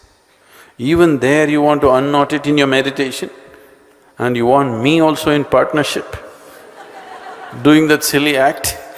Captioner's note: laughter